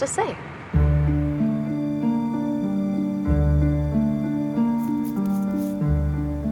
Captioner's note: gentle music; brush scraping